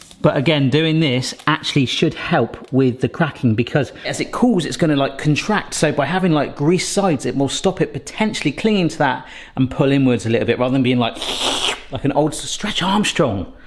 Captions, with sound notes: But again, doing this actually should help with the cracking because as it cools, it's gonna like contract. So by having like greased sides, it will stop it potentially clinging to that and pull inwards a little bit rather than being like (slurps) like an old Stretch Armstrong.